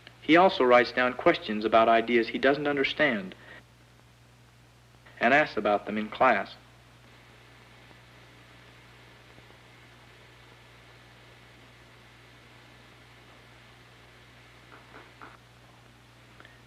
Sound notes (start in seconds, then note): 6.6 pointless silence